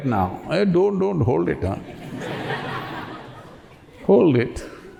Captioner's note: laughter